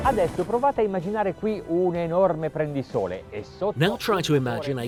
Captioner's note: speaking in foreign language